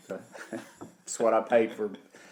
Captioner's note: laughing